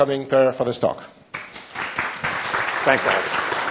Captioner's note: applause